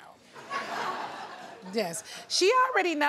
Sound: audience laughs

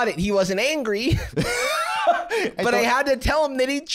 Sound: laughs

